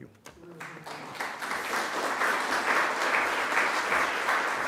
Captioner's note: audience applauding